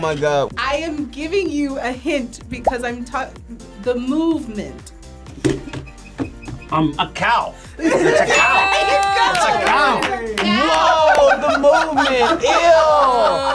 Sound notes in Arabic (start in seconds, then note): 7.8 تضحك